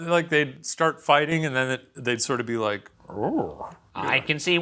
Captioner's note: imitates low roar